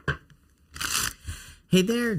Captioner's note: cards shuffling